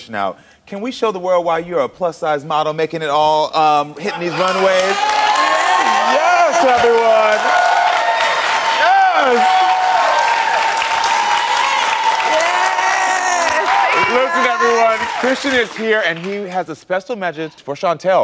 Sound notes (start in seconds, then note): 5.0 audience cheers